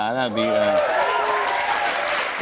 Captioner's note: cheers and applause